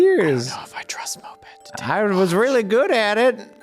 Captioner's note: whispering